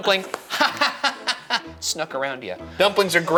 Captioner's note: laughing